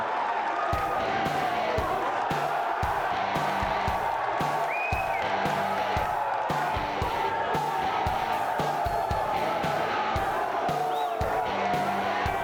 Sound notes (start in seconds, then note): 3.7 crowd cheering continues; 3.7 upbeat music continues